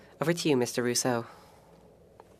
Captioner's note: speaking French